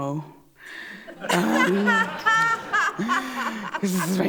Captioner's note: laughter